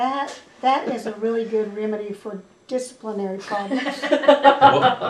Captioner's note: laughter